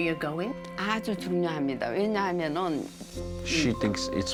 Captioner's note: speaking Korean